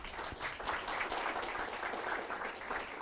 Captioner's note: applause